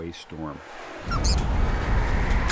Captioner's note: squeaks; wind howling